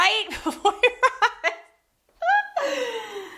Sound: laughs

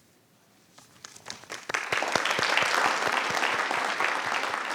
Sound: audience applauding

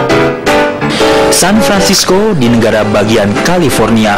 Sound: non-english speech

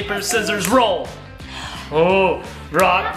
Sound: mom gasps

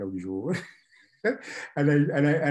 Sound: laughs

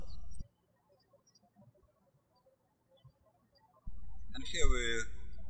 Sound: birds chirping

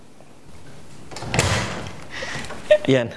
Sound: door slams open

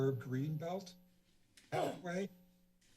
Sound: clears throat

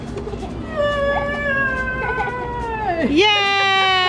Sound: groaning

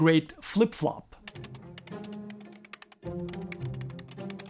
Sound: keystrokes

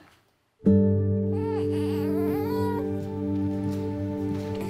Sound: baby fussing

